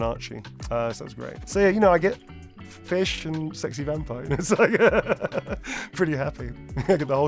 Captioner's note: laughs